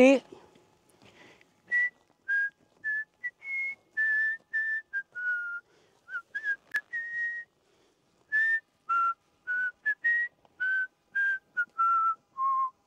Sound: whistles

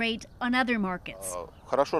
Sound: speaking alternate language

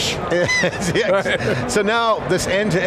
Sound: laughter

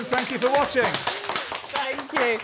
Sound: applause

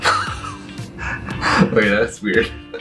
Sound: laughing

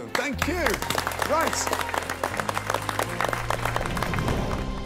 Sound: applause

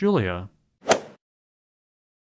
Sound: swoosh

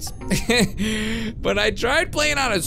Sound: chuckles

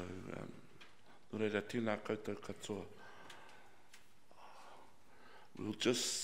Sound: speaks in foreign language

